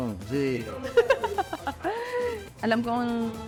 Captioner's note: laughs